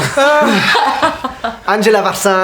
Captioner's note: laughter